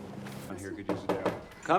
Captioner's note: knocking on door